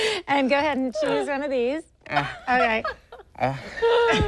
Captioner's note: laughter